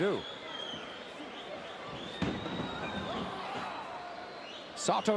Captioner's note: crowd murmuring